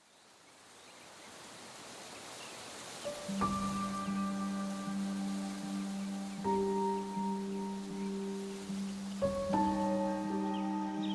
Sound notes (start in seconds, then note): 2.3 grass rustling; 5.7 tranquil music